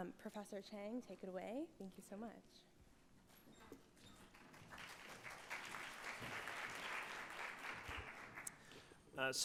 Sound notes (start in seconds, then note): 4.2 audience applauding